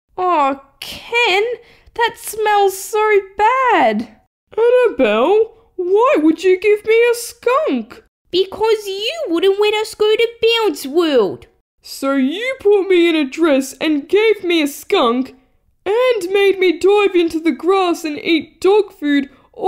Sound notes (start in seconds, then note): none